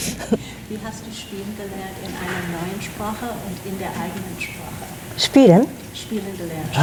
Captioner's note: panelists chuckling; panelists speaking in foreign language